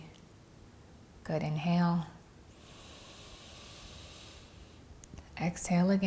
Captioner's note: breathes deeply